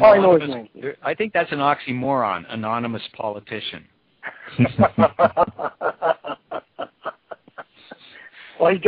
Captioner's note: laughter